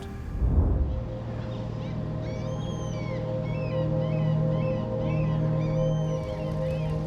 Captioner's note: gentle music; seagulls squawking